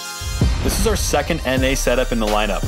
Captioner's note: whooshing sound effect